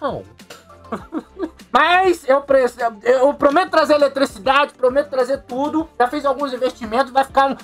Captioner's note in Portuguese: Riso